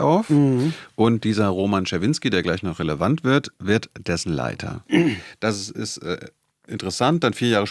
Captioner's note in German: räuspern